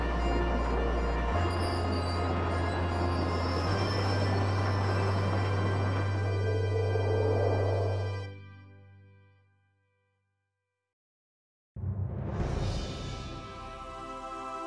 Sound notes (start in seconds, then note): 1.2 carousel spinning